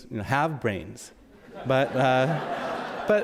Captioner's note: audience laughs